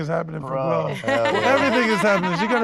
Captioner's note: laughs